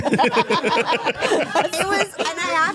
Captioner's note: all laughing